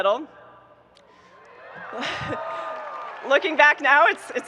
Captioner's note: audience cheering and applauding